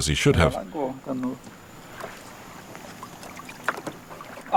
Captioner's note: Portuguese spoken audio